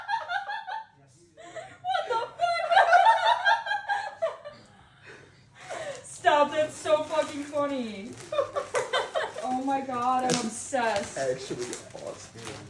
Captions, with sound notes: "what the fuck, hahaha" "stop, that's so fucking funny" *laughs* "oh my god, I'm obsessed" "actually, awesome"